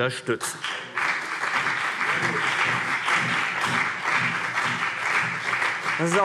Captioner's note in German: Beifall BÜNDNIS 90/DIE GRÜNEN und vereinzelt CDU